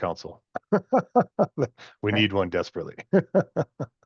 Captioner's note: laughs